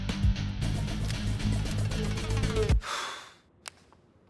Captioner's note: Dino blowing